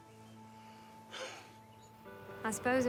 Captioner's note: Bobby sighs